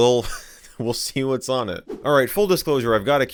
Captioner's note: laughs